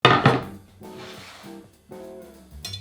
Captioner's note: board sliding; upbeat jazz music playing in background throughout video